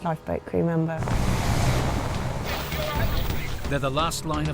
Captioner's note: helicopter whirring